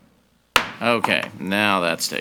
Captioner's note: gavel banging